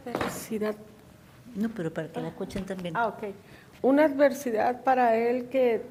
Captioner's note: woman speaks in foreign language